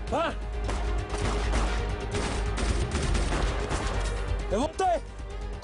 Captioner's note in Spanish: Disparos